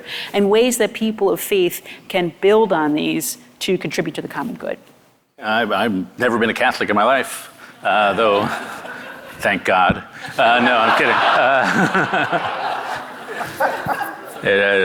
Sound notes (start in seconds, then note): 10.0 audience laughing